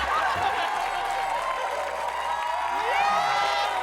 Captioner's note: cheering